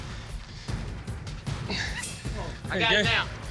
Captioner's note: grunts